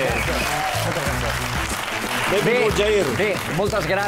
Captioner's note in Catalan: aplaudiments